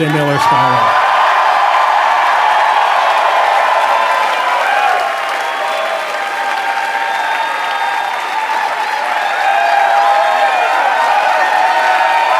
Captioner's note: applause